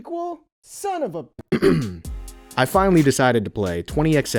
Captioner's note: ahem